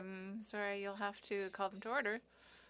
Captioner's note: speaking French